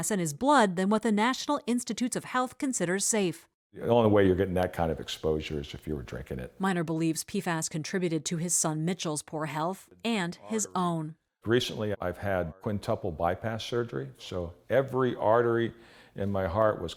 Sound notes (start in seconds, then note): 7.0 voice-over